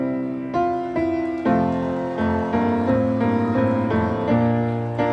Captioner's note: audience cheering